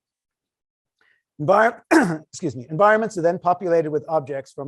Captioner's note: cough